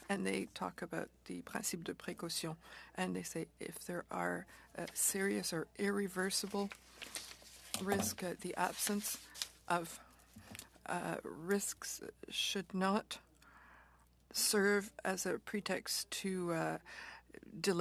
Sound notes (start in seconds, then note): 5.1 speaking French